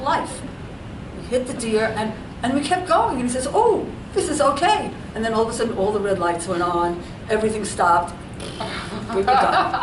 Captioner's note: laughs